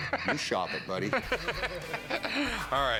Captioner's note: laughter